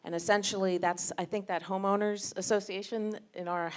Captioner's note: none